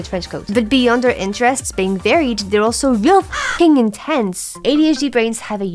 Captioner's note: crow